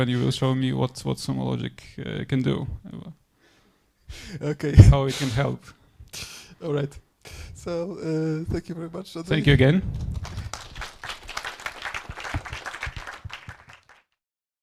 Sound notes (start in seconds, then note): 9.9 audience applauding